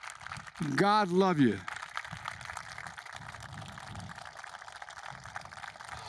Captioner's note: applause